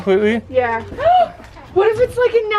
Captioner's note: gasps